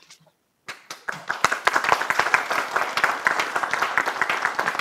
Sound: applause

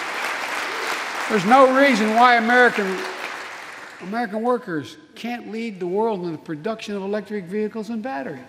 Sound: applause

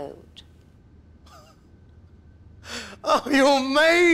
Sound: chuckles

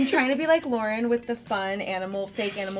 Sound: beeping

